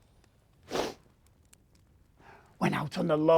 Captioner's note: gasping deeply